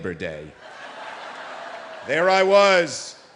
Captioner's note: audience laughing